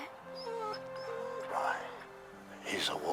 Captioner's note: Buck whines